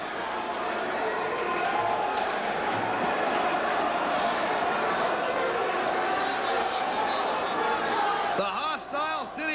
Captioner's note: crowd chatter